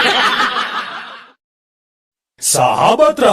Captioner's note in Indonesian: tertawa